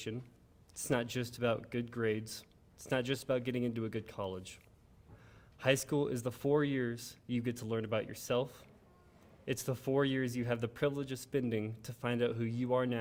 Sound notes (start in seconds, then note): none